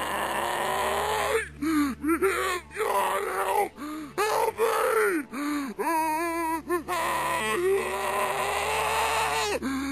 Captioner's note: Reversed headcrab zombie scream